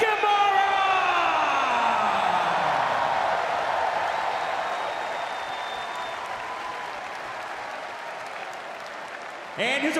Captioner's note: crowd cheering